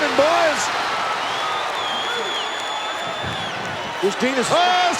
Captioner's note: audience cheering